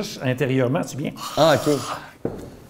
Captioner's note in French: feulement